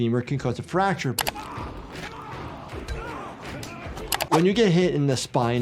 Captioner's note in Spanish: personajes gritando